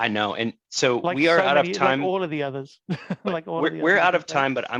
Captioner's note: laughs